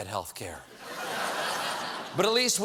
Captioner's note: laughter